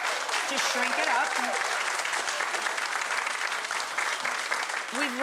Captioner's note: audience applause